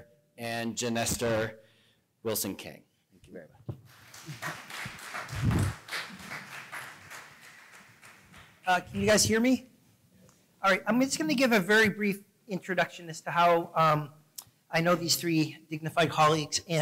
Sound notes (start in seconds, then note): 3.8 applause